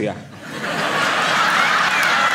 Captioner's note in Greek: έντονα γέλια